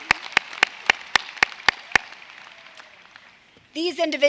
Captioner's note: applause